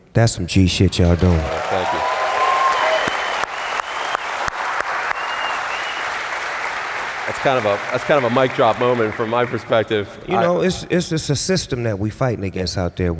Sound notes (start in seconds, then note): 2.6 cheers, applause